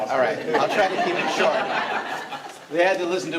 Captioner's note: all laughing